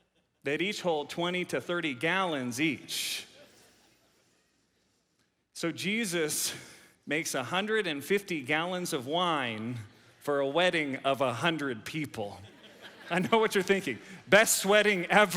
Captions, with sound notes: that each hold 20 to 30 gallons each. So Jesus makes a 150 gallons of wine for a wedding of a hundred people. (audience laughs) I know what you're thinking. Best wedding ever.